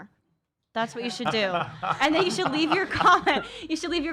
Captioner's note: laughs